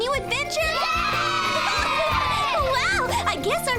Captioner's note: cheering